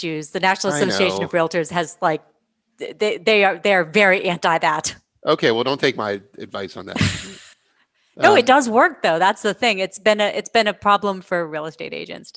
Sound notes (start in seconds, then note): 8.2 laughs